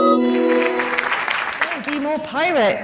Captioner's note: applause